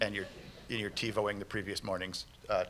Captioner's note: laughter